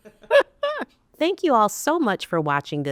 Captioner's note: laughing